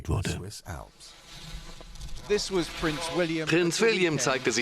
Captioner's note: voiceover